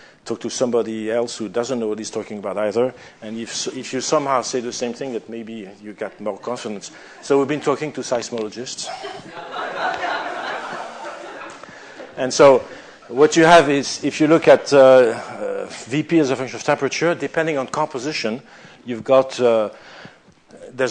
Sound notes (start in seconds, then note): 8.8 laughter